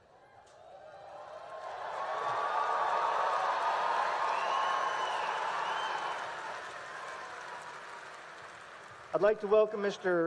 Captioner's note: applause and cheering